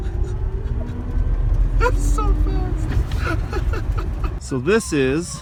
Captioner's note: laughing